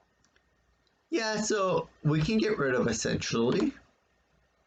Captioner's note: click of trackpad